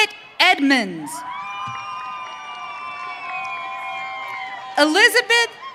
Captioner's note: audience cheering